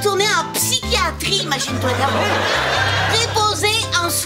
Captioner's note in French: rires